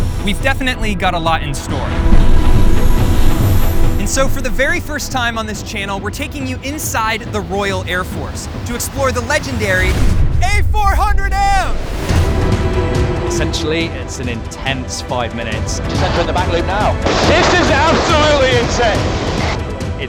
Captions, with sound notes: - We've definitely got a lot in store. (plane engine rumbling) And so for the very first time on this channel, we're taking you inside the Royal Air Force to explore the legendary A400M! - Essentially, it's an intense five minutes. - Just entering the Mach loop now. - This is absolutely insane!